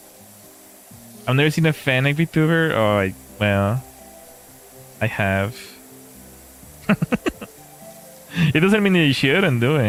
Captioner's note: laughter